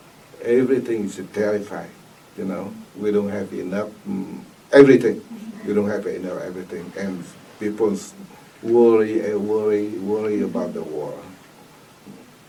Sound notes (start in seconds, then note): 10.8 clears throat